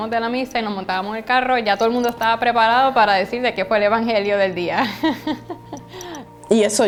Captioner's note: laughs